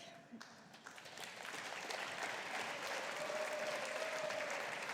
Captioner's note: audience applauding